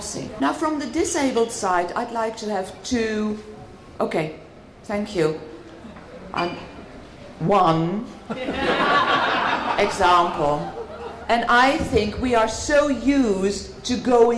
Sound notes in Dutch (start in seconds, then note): 8.3 gelach